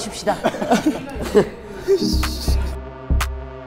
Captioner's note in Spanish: Jajaja